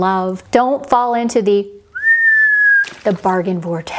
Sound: descending whistling; splash

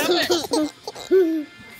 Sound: giggling

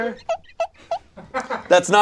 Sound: squeaky noise

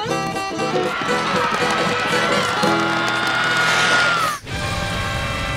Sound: screaming

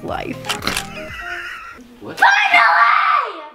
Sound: chuckles

